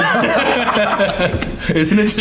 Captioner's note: all laughing